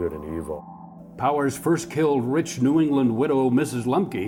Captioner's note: voiceover